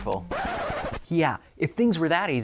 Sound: record player skipping

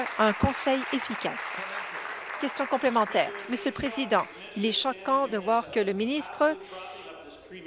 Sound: applause

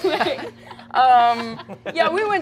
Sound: players laughing

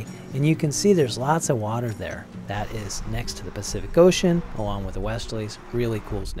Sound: winds

